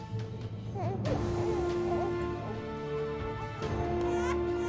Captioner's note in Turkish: Bebek ağlama sesi